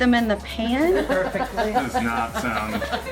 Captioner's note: family laughs